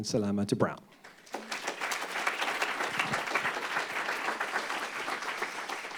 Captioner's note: applause